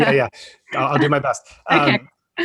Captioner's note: laughs